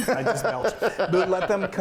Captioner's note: laughing